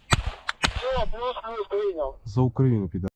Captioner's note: radio chatter